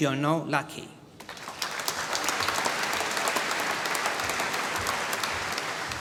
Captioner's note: applause